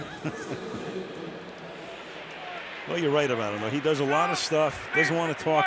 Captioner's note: laughs